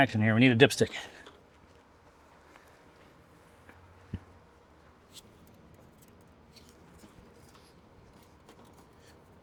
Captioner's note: silence